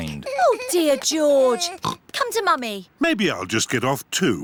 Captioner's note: oinks